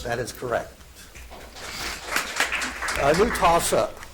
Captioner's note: audience applauds